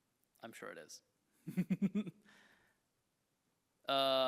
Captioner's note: chuckles